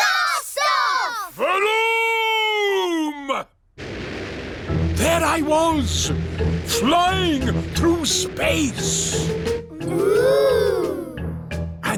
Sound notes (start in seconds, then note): none